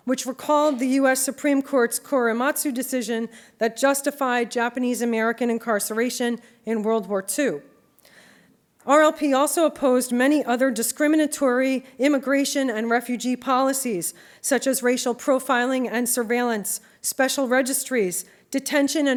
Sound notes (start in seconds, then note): none